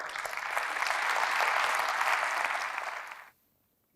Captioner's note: applause